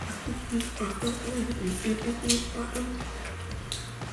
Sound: humming

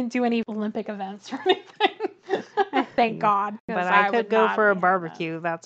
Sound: laughs

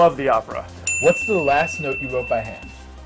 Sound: bell rings

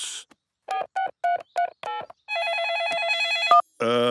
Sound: keypad beeping; cell phone ringing

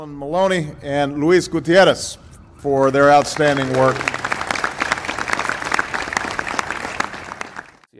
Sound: applause

